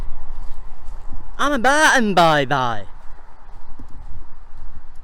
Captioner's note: over the top local accent